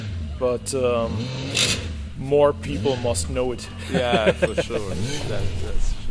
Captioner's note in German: lachend